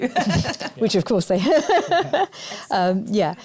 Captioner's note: laughter